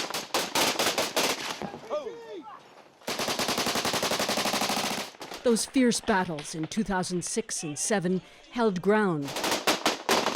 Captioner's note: gunshots